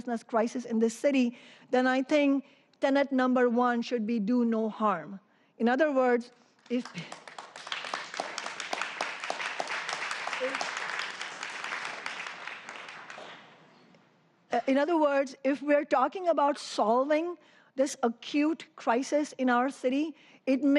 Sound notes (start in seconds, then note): 6.6 applause